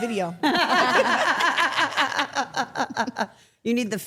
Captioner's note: everyone laughs